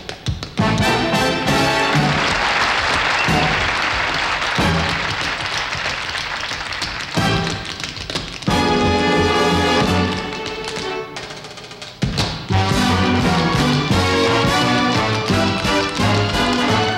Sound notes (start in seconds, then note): 1.6 audience applauds; 6.5 dancers tapping; 6.5 upbeat music